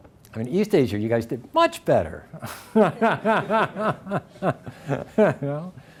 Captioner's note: laughs